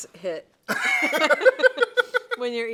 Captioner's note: laugh